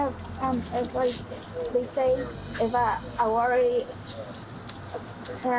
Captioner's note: none